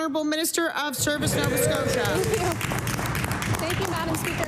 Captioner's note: applause